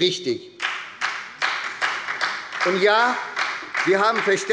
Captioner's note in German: Beifall bei der SPD